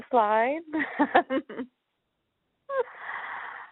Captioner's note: chuckles